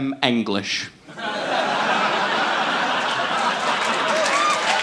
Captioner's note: audience laughing; audience applauding